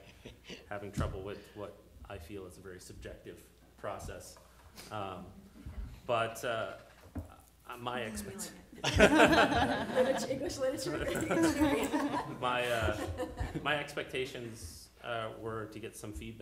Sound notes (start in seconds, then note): 8.8 laughter